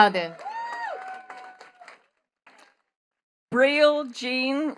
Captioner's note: attendees cheering and clapping